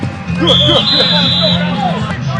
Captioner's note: whistles blowing